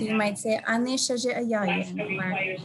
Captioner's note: speaking in native language